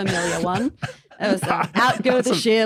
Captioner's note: wheezes